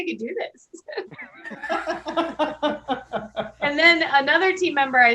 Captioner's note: laughing